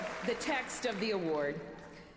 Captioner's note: applause